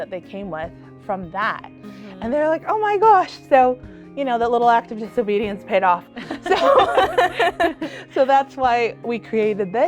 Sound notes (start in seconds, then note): 6.2 both laughing